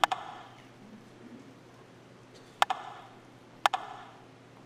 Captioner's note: rhythmic tapping